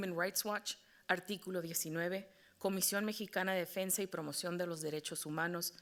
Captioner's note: moderator speaking Spanish